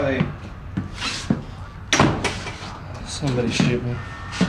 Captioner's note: door closing